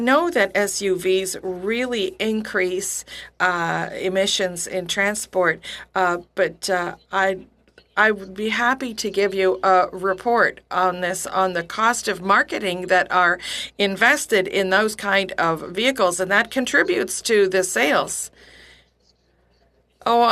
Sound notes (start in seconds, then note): 5.7 speaking French